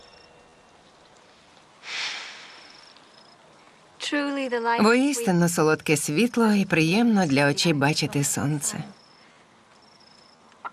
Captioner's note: sighs deeply